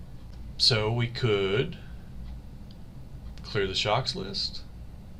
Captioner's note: click